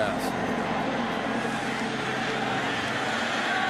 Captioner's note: crowd cheering